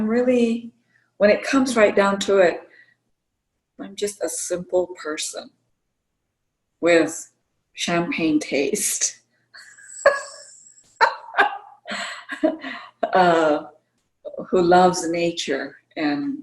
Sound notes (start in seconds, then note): 9.6 laughter